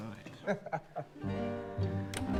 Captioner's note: Bassanio laughs